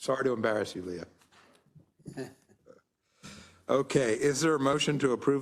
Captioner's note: laugh